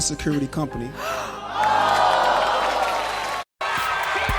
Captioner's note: audience gasping